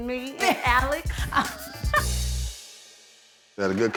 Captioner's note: laughter